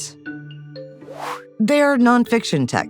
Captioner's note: air whooshing